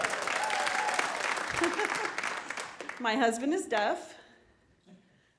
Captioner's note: applause; silence